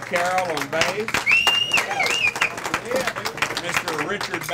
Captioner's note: cheering